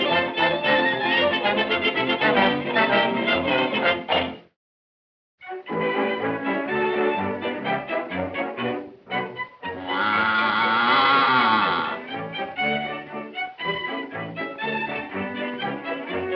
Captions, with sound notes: The Booze Hangs High [cow moos]